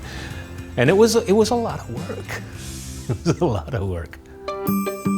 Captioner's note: chuckles; lighthearted music